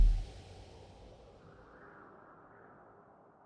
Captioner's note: wind gusting